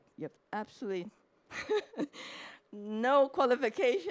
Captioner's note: chuckles